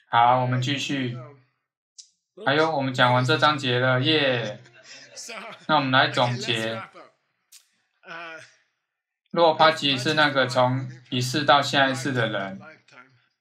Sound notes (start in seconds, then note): 4.1 students laughing